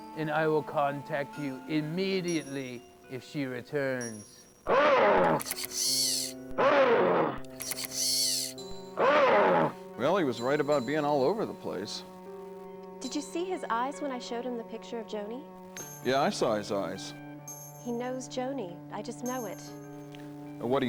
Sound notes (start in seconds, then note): 4.6 animatronic roars